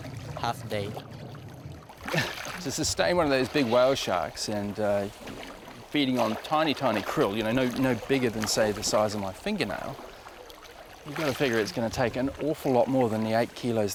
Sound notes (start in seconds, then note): 2.0 sighs